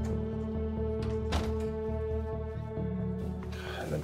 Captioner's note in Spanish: ruido al cerrar